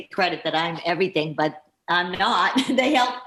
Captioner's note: chuckling